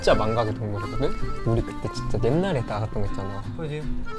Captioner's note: whispers